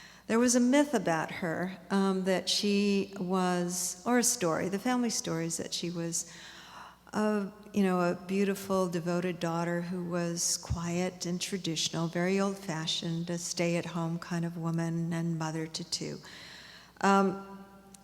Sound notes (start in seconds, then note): none